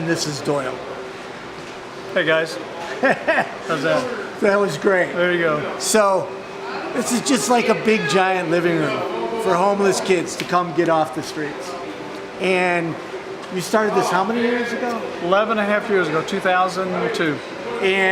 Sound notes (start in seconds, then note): 2.9 laughing